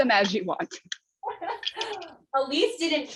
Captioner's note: laughter